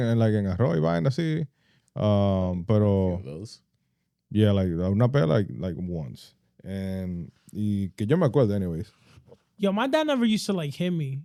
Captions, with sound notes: Yeah, like, not bad, like once. (Speaking Foreign Language) Anyways. Yo, my dad never used to, like, hit me.